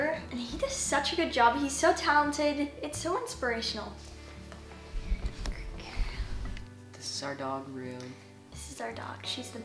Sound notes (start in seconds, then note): 5.7 whispers